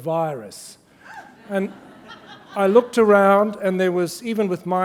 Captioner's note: laughter